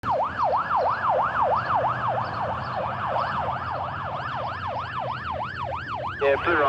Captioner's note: ambulance siren; man On Radio